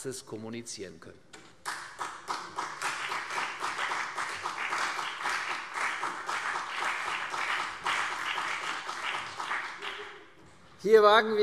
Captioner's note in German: Beifall CDU